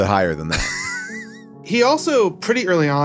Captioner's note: laughs